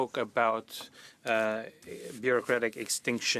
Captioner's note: speaking French